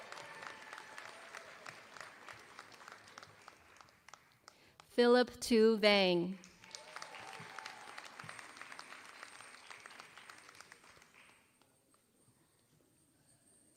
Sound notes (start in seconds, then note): 0.0 applause; 6.3 applause